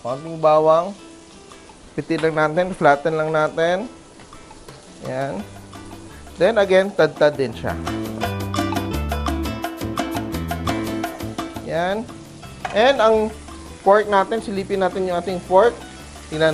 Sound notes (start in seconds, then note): 0.2 sizzle; 11.6 sizzle; 12.9 clang; 13.4 sizzle